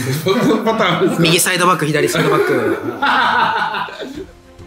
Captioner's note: laughs